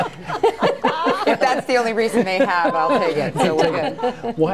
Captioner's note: laughter